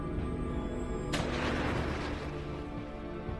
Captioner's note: gunshot